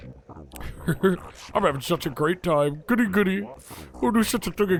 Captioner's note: laughs